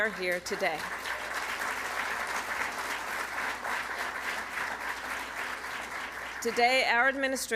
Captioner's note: applause